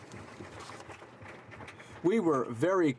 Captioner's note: some Applause